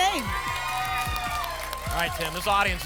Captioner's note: applause and cheering